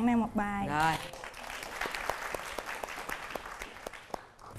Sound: applause

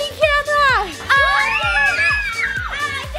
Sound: all screaming

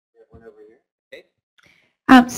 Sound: voiceover

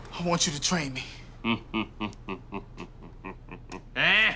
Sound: laughs softly; cackling

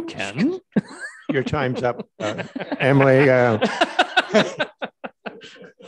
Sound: everyone laughing

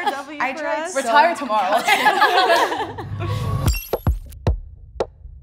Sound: laughing; upbeat drumming

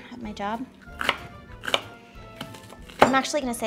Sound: chopping

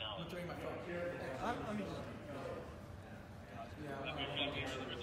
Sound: crowd murmuring

